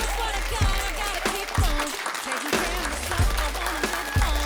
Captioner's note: applause